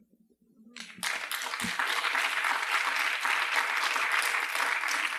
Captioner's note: applause